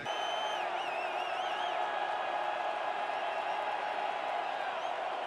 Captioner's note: cheering